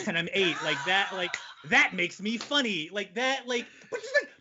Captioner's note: laughing